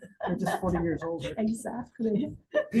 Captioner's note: laughs